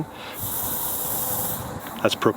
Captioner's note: gas hissing